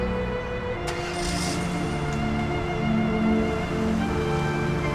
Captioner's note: car starts